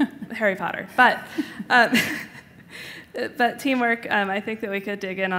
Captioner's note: giggles